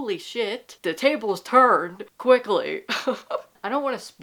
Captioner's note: laughter